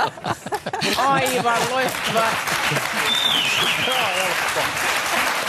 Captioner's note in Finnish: Aplodeja